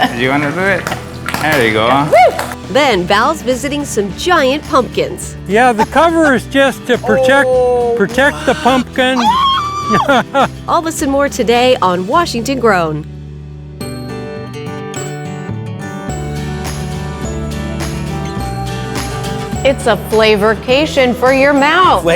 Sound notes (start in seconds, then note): 9.2 farmer chuckling; 9.2 screaming; 13.8 bright music